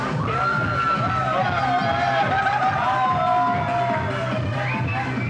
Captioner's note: chatter